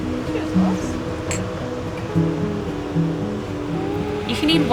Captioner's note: mugs clink